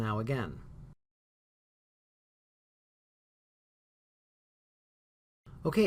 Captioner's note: no sound